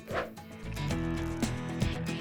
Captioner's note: screen whooshing; upbeat music